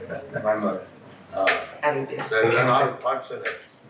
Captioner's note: chuckles